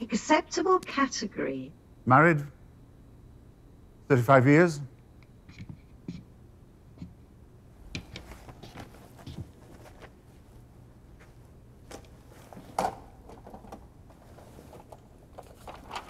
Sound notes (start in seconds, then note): 5.7 footsteps plodding; 8.2 paper rustling; 13.0 printer clattering